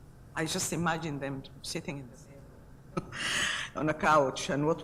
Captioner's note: laughs